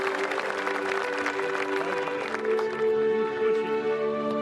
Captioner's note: applause; speaking global language